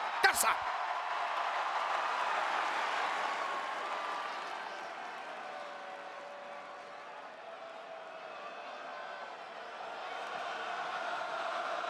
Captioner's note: applause